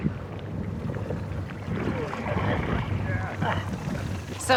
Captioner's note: groans